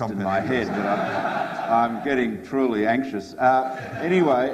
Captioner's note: audience laughs